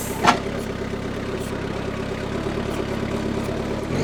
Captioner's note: engine rumbling